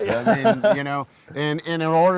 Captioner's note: laughing